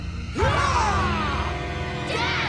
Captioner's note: screaming